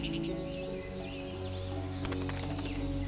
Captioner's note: chirping